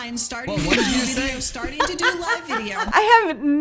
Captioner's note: laughs